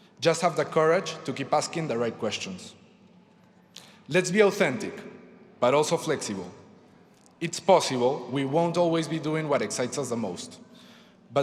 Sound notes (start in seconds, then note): none